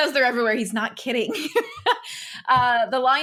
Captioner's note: laughs